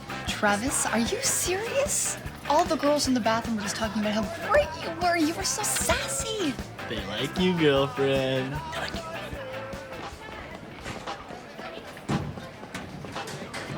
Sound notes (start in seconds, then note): 8.7 whispers